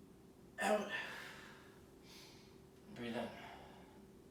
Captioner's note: inhaling